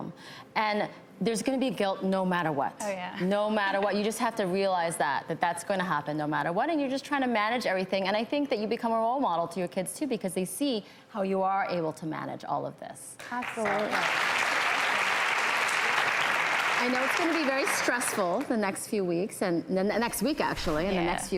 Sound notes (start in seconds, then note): 15.1 audience applause